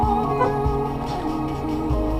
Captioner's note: beep